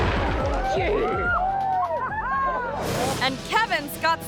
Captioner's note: explosive booms; friends cheering